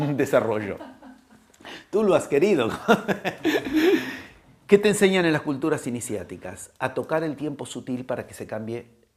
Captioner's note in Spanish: risas